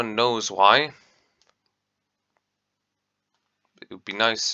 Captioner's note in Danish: shorter long pause